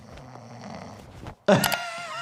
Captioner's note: patient snoring; laughing